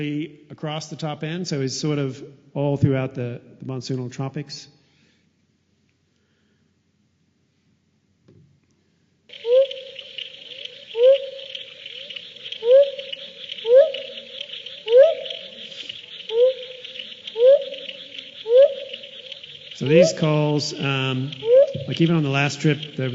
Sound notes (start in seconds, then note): 6.0 sound of frog calls